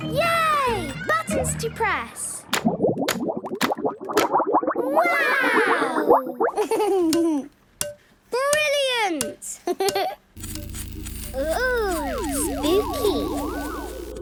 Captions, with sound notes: - Yay! Buttons to press! - (bubbling) - Wow! - Click, clack! - Brilliant! Hee, hee! - (pulsing) - Oooh! Spooky!